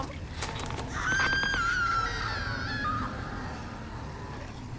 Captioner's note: woman screams